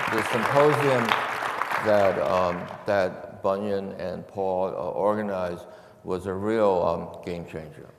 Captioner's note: applause